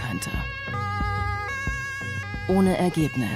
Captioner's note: siren